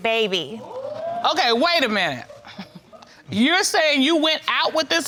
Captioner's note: chuckles